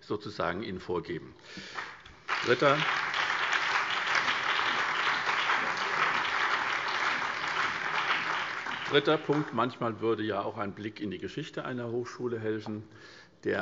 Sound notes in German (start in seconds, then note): 1.6 Beifall SPD, BÜNDNIS 90/DIE GRÜNEN, vereinzelt CDU und DIE LINKE